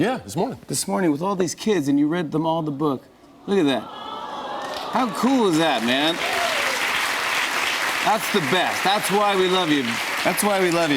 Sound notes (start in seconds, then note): 3.8 audience awws; 5.8 cheers and applause; 10.4 applause